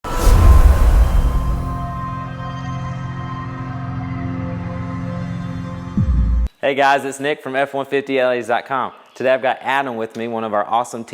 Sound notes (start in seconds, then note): 0.0 sound effect